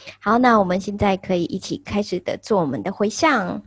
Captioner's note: foreign language